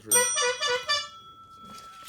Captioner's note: honking